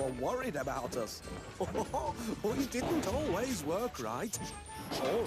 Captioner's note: laughs